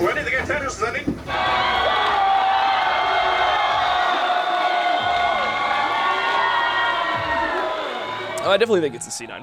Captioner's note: crowd cheering